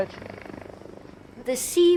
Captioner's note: boat droning